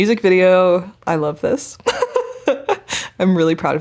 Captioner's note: chuckling